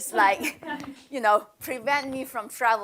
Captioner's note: laughter